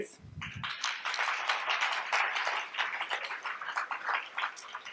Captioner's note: audience applauds